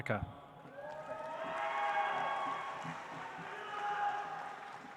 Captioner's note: audience applauds